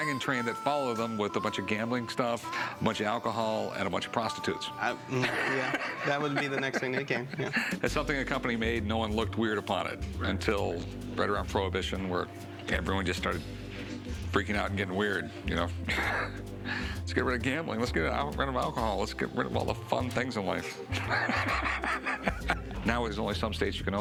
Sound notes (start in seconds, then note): 5.0 laughs; 15.9 laughs; 20.7 laughs